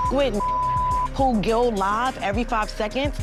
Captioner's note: beep